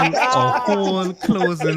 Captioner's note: laughter